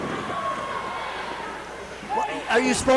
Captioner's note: crowd yells